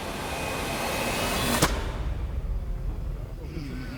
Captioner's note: gunshot; murmuring, laughter